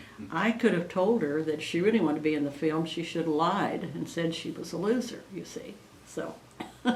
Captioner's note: laughs